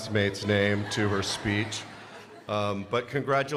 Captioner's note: crowd laughs